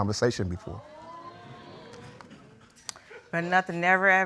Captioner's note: audience gasps